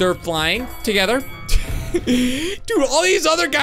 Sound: laughs

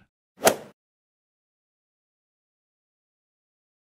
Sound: golf ball hit sound effect

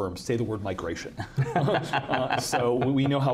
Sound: all laughing

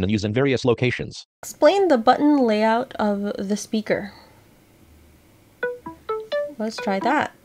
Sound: Seeing AI Chime

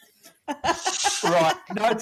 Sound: laughing

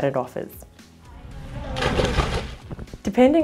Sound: splash and inaudible voice

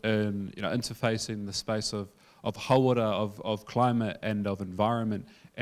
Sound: speaking in foreign language

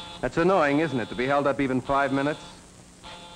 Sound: phone buzzes

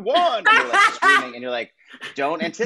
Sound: laughs

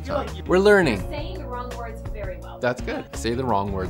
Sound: woman's Voice

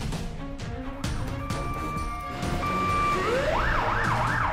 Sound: ambulance sirens

